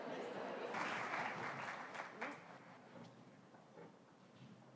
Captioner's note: applause